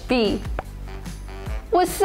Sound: image pops

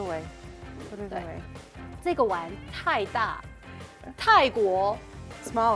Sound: speaking in mandarin

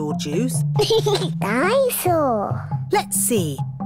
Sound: giggles

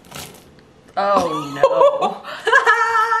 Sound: cutting sound

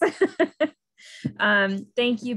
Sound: laughs

